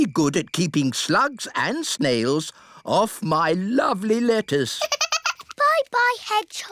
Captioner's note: giggles